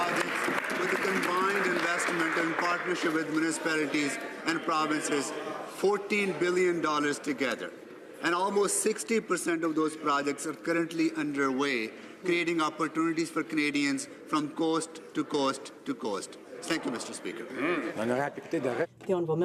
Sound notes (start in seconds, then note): 4.5 some Applause